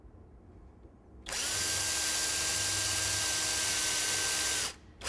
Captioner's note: drill whirs and screeches again